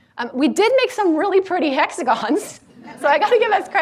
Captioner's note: laughs